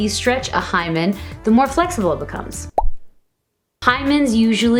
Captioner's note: pop